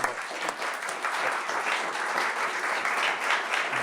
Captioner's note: applause